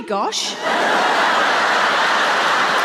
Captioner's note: laughter